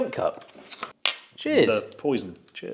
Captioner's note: mugs clank